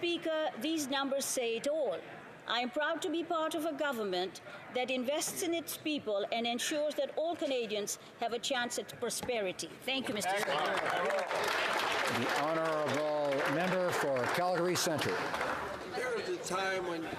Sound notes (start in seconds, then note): 14.0 some Applause